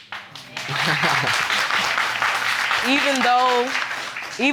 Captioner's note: chuckles